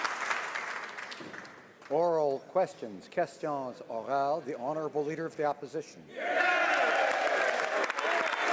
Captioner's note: speaking French